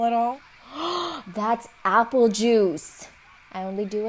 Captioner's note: gasps